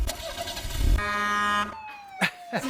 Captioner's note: engine rumbles; horn beeps; siren blares